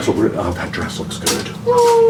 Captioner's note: laughing